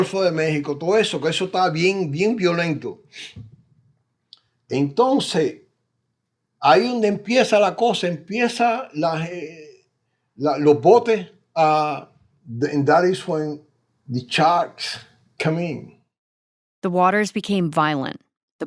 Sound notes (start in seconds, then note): 11.0 speaking Spanish